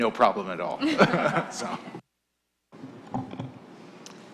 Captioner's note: laughter